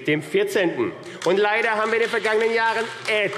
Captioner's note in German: Beifall AfD